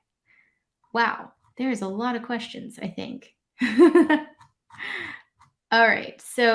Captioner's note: laughs